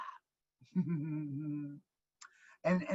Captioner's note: laughing